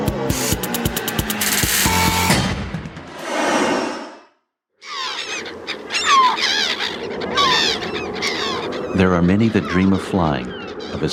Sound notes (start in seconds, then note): 3.1 airplane roaring; 4.8 birds chirping; 5.1 win whooshing